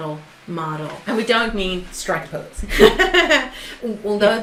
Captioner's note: laughs